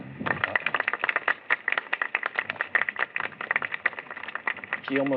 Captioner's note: applause